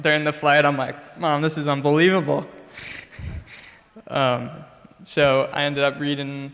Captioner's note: chuckles